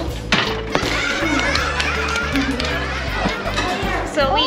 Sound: laughter

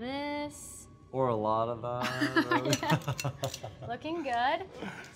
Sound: laughter

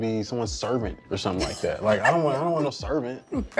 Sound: laughing

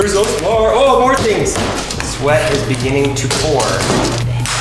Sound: tool grinds

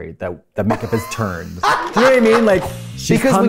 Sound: laughs

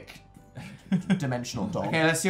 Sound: laughs

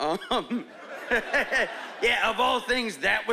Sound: laughing

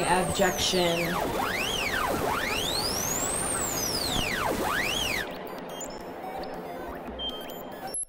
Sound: high pitched electronic sound distortions

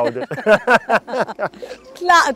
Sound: both laughing

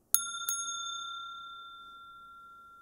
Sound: Mooji rings the bell; long silence

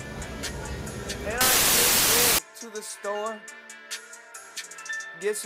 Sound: TV static

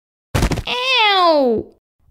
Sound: thud

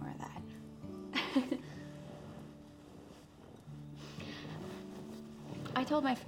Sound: laughs

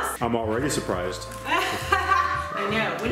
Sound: laughs

